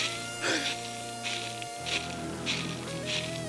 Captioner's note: gasps